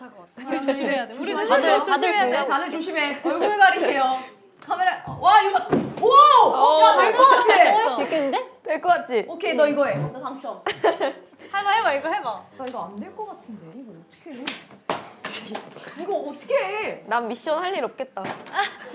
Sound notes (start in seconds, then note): 14.8 fumbling